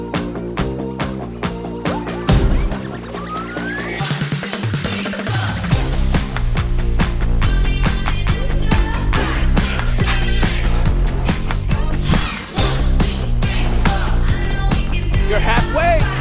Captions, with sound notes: [breathing heavily] You're halfway!